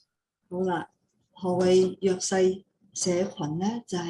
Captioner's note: non-english speech